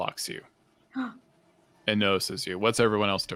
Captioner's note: gasps